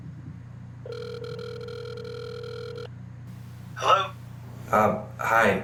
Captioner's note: phone rings